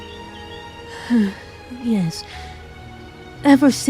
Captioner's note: sigh